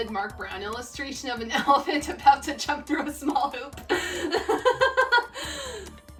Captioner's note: laughs